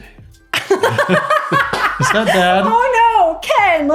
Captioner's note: laughs